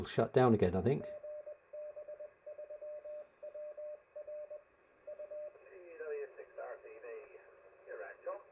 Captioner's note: talking on radio